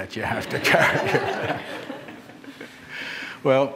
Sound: laughter

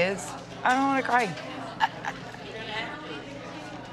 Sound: chuckles

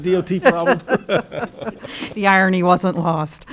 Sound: laughter

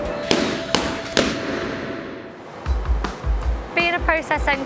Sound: gloves hitting mats

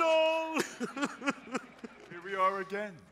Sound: sobbing

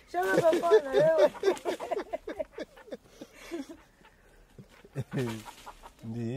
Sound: speaking native language; laughing

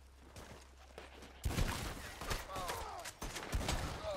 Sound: gunshot

